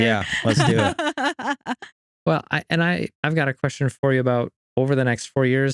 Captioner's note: laughing